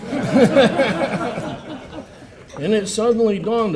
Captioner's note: laugher